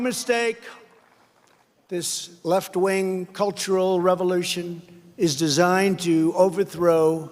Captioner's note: applause